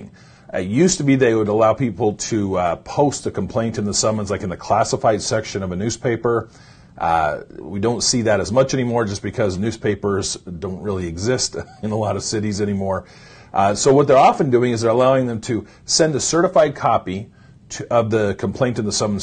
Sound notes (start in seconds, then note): 11.6 laughs